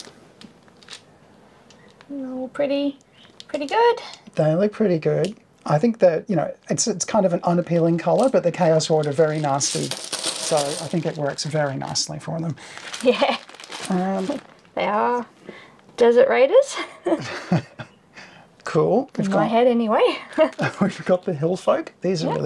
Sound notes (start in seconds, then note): 16.8 laughing